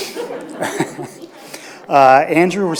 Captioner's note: audience laughs